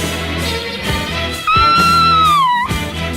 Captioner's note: Sweet Polly Purebred Screams